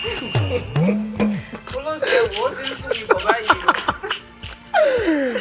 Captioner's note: laughs